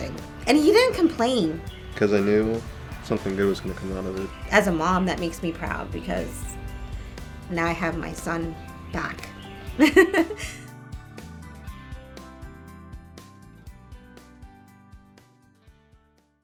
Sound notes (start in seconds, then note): 9.8 laughs